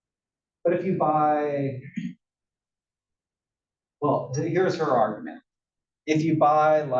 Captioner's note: cough